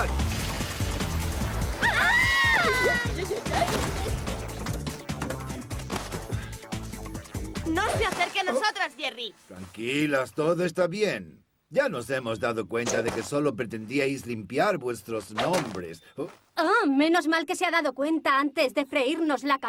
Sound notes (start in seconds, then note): 1.8 girls shriek